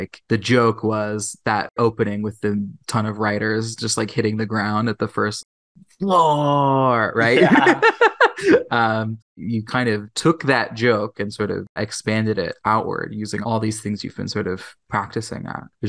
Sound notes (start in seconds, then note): 7.2 laughs